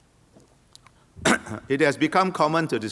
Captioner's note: coughs